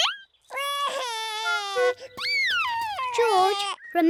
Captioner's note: wailing; laughs